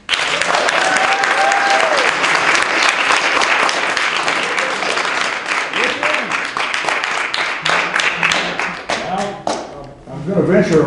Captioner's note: applause